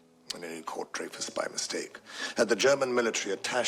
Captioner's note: none